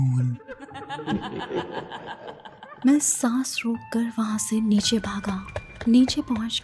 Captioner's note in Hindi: हंसी